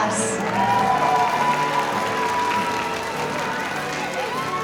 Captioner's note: audience cheering